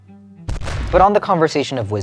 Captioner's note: bomb exploding